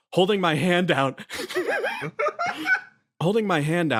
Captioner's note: laughs